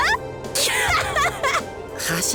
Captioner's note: laugh